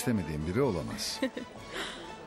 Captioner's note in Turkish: Kıkırdama sesi